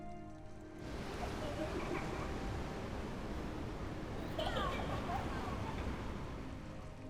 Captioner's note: giggling; sobbing